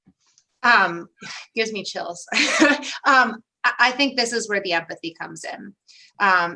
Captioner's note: laughter